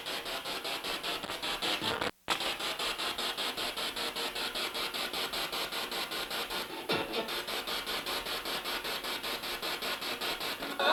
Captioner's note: sound of the Spirit Box in the background